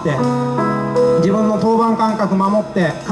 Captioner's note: none